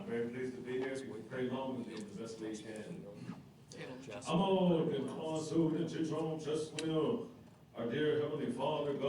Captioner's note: speaking coeur d'alene